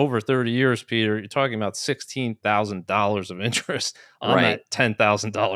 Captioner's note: laughs